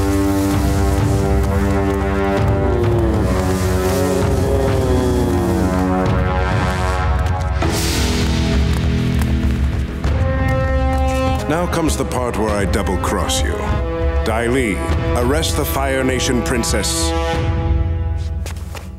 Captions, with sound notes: [groaning] Now comes the part where I double cross you. Dai Li, arrest the Fire Nation princess.